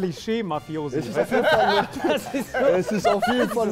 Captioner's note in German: Lachen